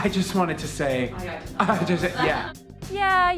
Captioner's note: imitating laughing